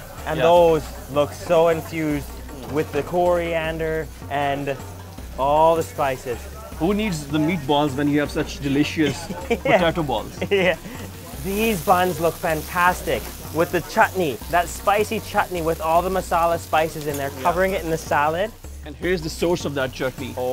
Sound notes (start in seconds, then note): 9.0 laughs